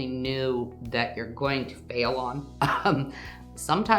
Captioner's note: laughs